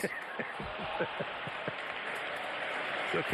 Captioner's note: laughter